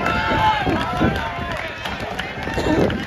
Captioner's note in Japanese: 拍手